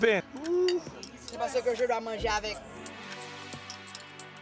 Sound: speaking French

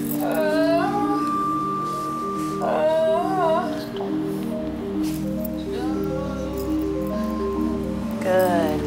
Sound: moaning

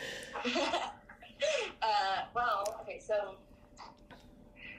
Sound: laughs

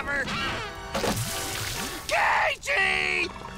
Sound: sizzling

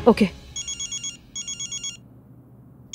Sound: phone ringing

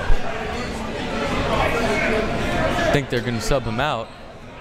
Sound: crowd members shouting

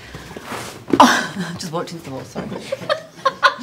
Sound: gasps; laughs

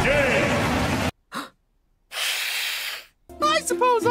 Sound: hissssss; gasp

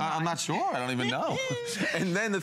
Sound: laughter

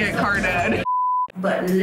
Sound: beep

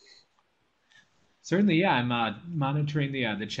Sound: voiceover

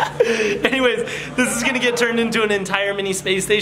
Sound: laughing

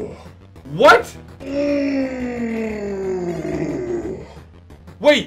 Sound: grunting celebration; grunting celebration

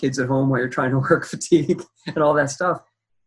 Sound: laughs

